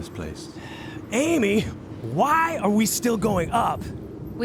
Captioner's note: sighs